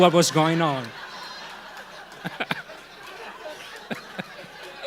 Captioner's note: audience laughing